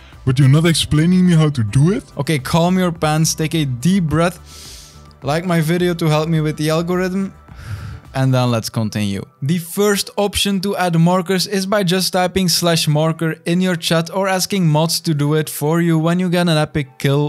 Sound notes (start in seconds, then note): 4.4 inhales; 7.5 exhales